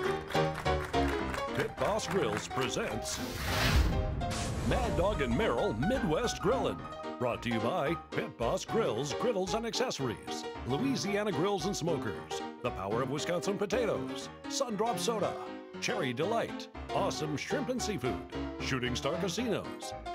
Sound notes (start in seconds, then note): 3.1 flames exploding